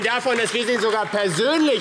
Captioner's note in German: Beifall AfD